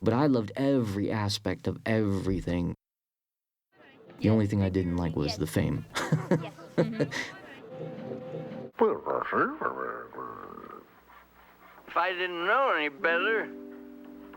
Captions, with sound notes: But I loved every aspect of everything. (LAUGHING) The only thing I didn't like was the fame. Yes. (BABBLING) If I didn't know any better,